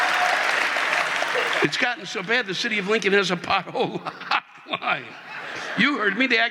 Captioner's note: audience laughing; audience applauding